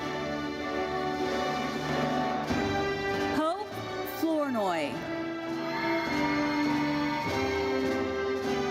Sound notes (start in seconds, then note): 5.4 audience cheers